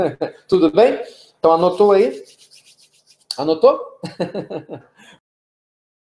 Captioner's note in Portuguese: risos